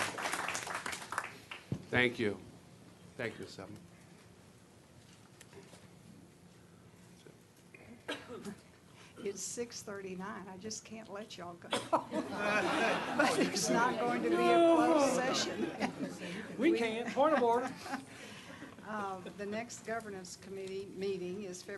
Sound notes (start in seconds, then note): 0.0 clapping; 15.3 laughter